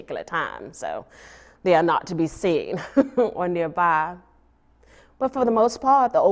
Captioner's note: laughs